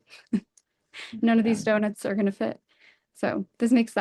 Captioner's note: chuckles